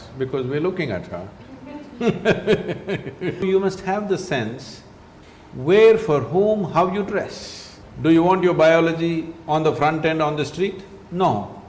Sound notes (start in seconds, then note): 2.0 laughter